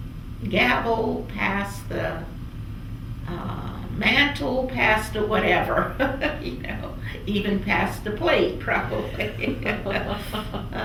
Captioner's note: laughs